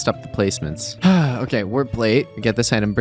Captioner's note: sigh